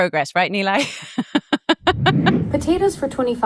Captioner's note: chuckles